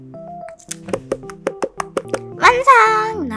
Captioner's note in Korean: 톡톡 / 톡톡